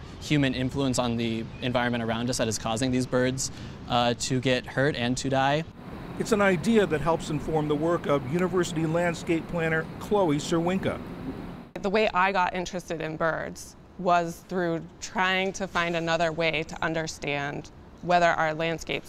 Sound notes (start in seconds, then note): 6.4 voice-over